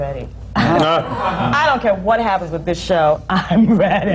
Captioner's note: laughter